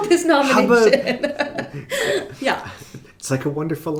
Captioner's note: laughing